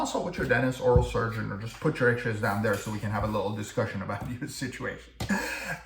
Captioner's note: laugh